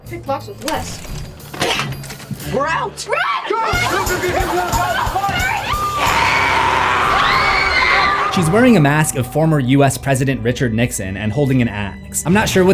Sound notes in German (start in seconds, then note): 5.7 Nora kreischt; 7.2 schreit